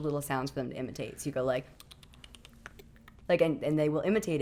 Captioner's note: clicking sounds